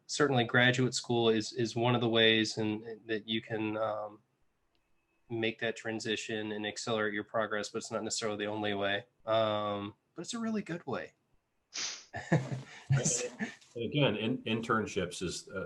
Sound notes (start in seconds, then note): 12.2 laugh